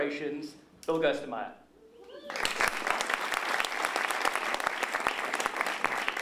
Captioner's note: applause